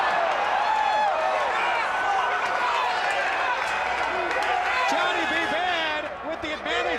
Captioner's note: crowd chatter